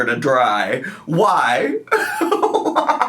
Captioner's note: laughs